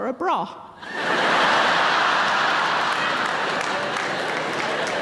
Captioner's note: audience laughing